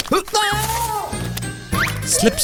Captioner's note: screams